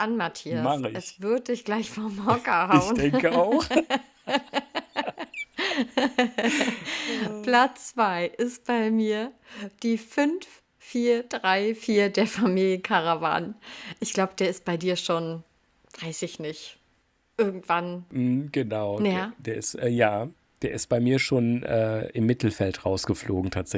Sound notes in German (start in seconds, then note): 5.6 gelächter; 6.6 japst